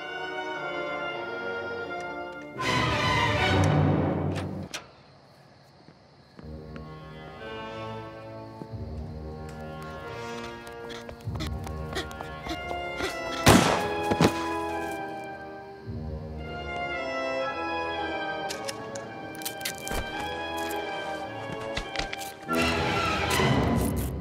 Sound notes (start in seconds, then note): 10.4 kid pants heavily; 13.4 gun fires; 18.8 gun cocks